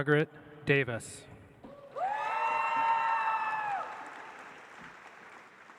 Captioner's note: audience applauds